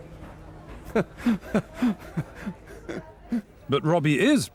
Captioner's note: laughs